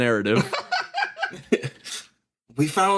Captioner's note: laugh